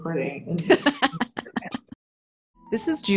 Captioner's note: both laughing